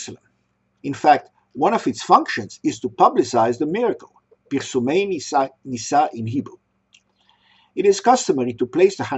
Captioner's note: Pirsumey Nissa in Hebrew